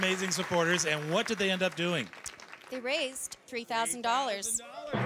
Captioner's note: cheering and Applause